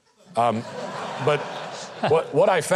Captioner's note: audience laughs